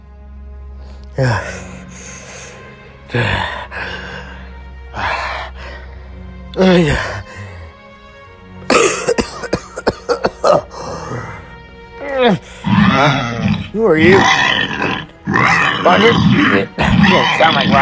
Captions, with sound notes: (exhausted breathing) (coughing) Huh? Who are you? (Stygimoloche growling) Rodger? You don't sound like Rodger.